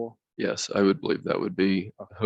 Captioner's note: multiple murmurs